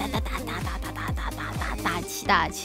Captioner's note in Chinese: 嘻嘻